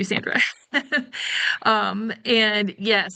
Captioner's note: laughing